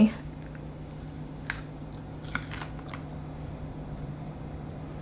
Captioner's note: cracking sound